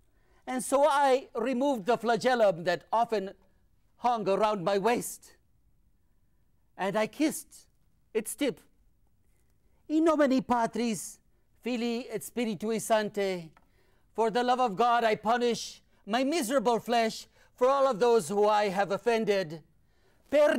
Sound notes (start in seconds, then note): 9.7 speaking in foreign language